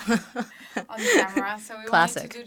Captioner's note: both laughing